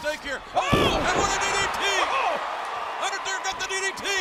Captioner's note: crowd cheering